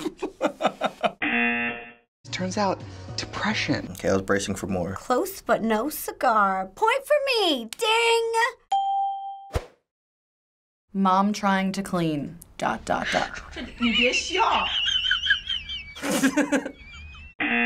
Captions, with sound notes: Turns out, depression. - Okay, I was bracing for more. - Close, but no cigar. Point for me, ding. - (ding) - "Mom trying to clean..." - (cameraman laughing)